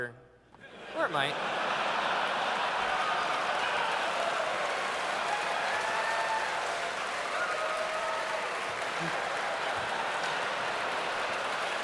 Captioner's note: laughter